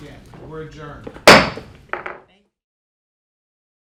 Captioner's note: gavel bangs